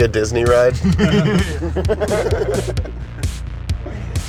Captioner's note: men laugh